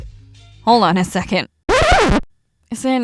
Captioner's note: record scratch